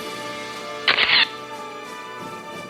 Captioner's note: orchestral music; camera shatters; orchestral music